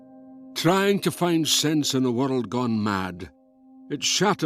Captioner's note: Voz en off